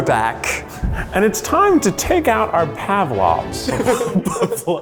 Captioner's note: laughter